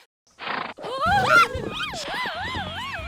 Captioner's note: yelps; cries out